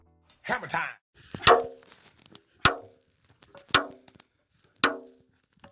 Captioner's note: hammer pounding